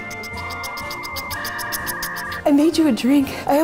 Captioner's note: smooches; static electronic dial-up pulses